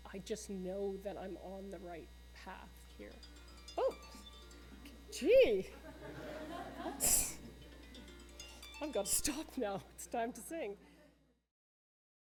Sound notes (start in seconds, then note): 3.4 phone Alarm goes off; 5.7 laughter